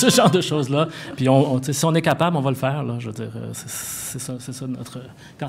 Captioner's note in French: rires